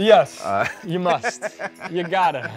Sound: laughing

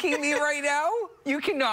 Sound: laughter

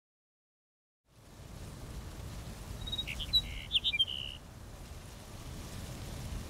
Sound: bird sounds

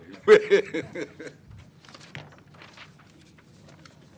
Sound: laughter

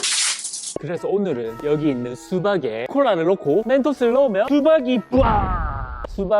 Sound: brrrrrrrrr

